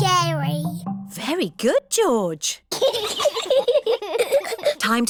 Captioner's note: both giggle